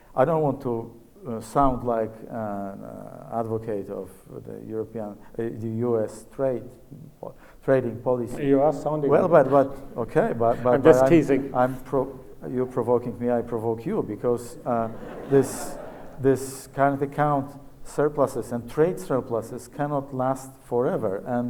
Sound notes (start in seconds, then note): 9.0 laughs; 14.8 audience laughs